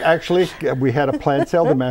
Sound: laughing

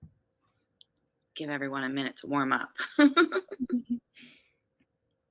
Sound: laughs

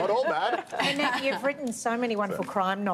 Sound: laughter

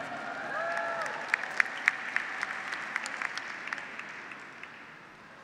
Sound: audience and graduates applaud

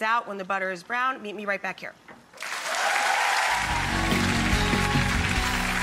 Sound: clapping

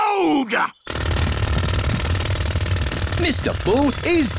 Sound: drilling

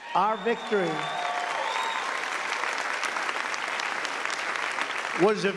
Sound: cheers and applause

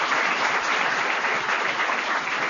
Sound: applause

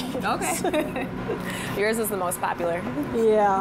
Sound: laughter

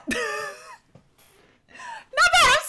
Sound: laughs

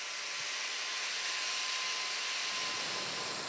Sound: whirring

